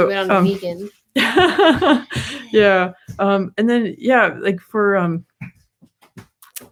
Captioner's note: laughs